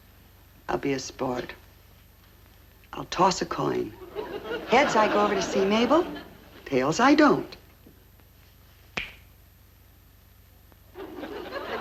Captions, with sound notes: I guess I'll be a sport. I'll toss a coin. Heads I go over to see Mabel, tails I don't. (hands clapping)